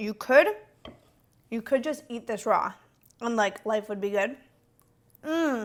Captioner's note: mmmm